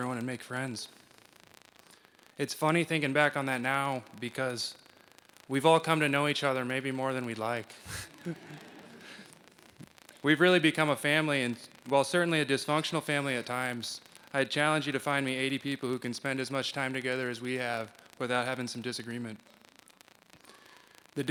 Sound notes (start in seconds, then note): 7.8 laughter